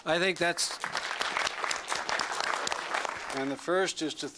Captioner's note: applause